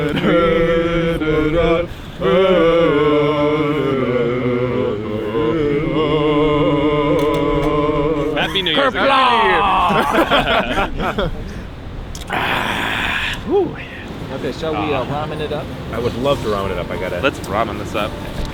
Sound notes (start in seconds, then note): 0.0 all vocalizing; 10.1 all laughing